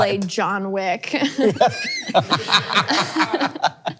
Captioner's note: all laughs